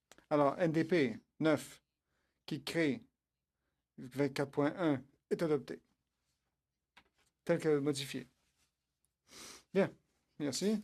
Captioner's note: speaking French